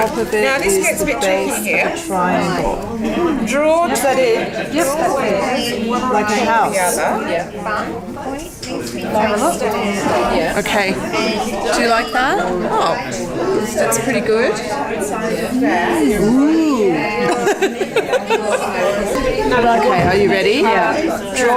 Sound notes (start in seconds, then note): 2.1 participant chatter; 7.0 participant chatter; 14.8 participant chatter